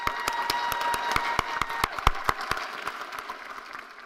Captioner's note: cheers and applause